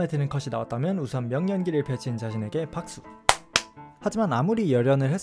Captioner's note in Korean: 짝짝